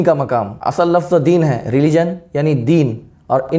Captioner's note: in Arabic